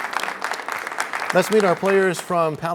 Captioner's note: applause